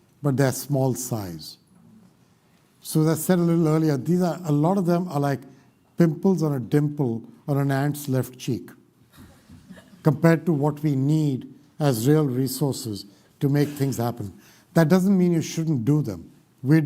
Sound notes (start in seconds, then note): 9.1 laughter